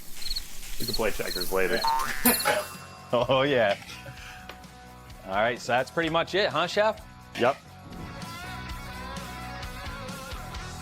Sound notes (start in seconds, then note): 1.9 laughing; 1.9 spring bouncing; 8.3 rock music